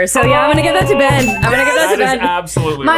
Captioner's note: exclaiming